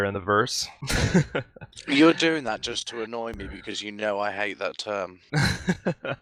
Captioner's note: laughing; wryly; laughing